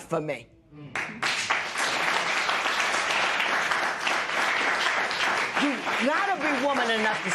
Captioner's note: applause